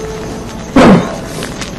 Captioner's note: coughs